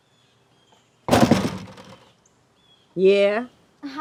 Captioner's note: door clatters